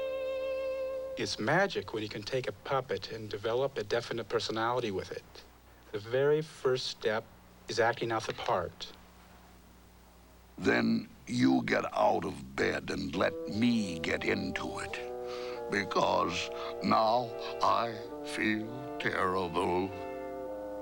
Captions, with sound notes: IT'S MAGIC WHEN YOU CAN TAKE A PUPPET AND DEVELOP A DEFINITE PERSONALITY WITH IT. THE VERY FIRST STEP IS ACTING OUT THE PART. ( in Frog's voice: ) THEN, YOU GET OUT OF BED AND LET ME GET INTO IT BECAUSE NOW I FEEL TERRIBLE!